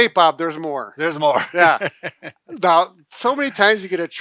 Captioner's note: laughing